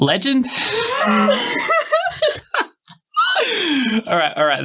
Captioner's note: laughter